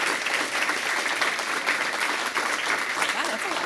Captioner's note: applause